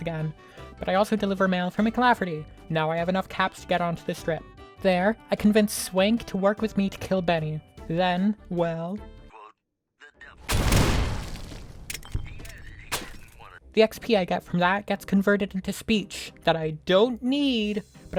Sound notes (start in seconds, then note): 10.4 loud fucking explosion!!!!!!!!!!!!!!!!!!!!!; 11.9 Benny's belongings and corpse clattering around